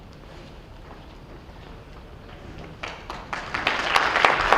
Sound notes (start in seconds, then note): 2.8 applause